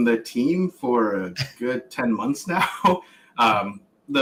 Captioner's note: laughs